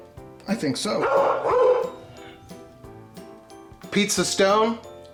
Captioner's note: dog barks